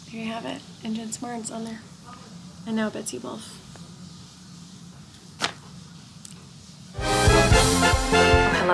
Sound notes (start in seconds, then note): 5.3 paper flopping; 7.0 exciting music